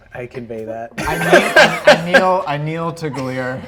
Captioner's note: laughter